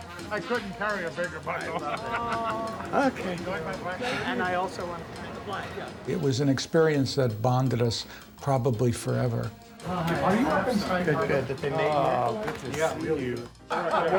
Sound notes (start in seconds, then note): 2.0 sighs; 9.5 room noise, people laughing and talking